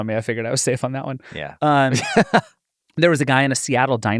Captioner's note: chuckling